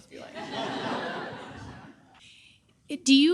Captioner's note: audience laughing